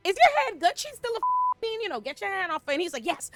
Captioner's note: beep